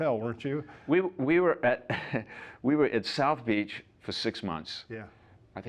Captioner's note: laughs